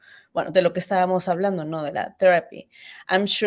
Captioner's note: speaks Spanish